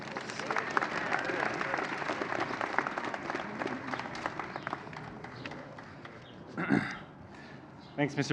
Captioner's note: applause